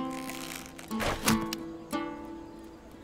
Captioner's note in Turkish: Ok fırlatma sesi